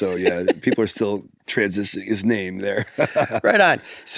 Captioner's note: laughs